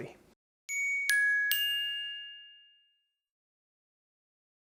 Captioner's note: gentle chiming